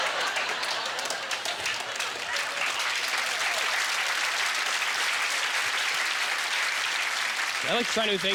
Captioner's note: audience laughter; applause